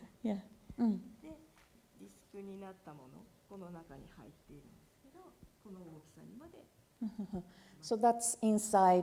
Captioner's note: speaking japanese